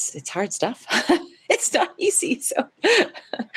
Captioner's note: laughs